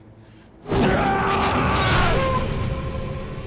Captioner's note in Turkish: Bamsı bağırıyor